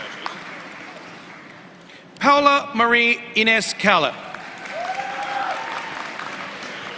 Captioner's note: applause